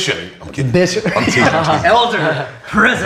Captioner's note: all laughing